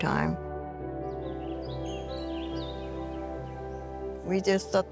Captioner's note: birds chirping; soft music